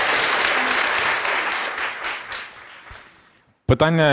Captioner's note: applause